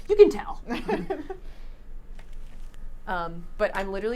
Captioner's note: laughs